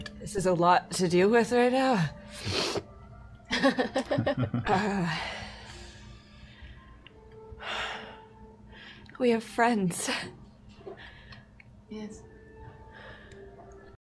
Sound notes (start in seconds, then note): 3.5 laughter